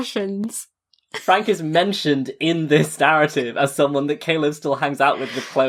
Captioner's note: laughing